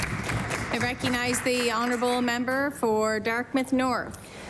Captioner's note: applause